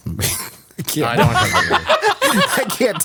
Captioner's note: laughs